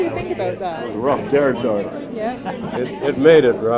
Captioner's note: laughs